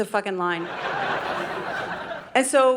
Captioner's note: audience laughing